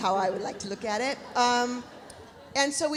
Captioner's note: audience laughs